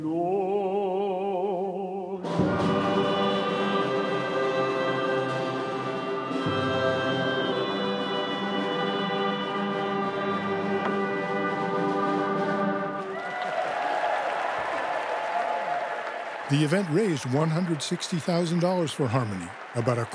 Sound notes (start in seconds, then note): 6.7 cheers and applause